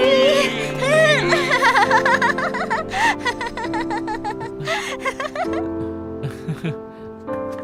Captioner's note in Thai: เสียงหัวเราะ